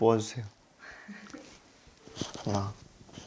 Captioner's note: awkward laugh